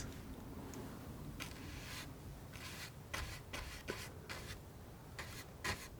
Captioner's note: scratching